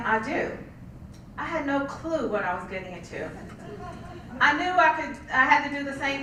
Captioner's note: laugh